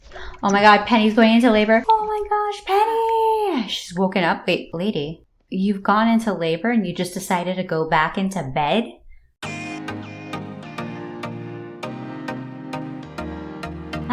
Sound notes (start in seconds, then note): 0.0 gasp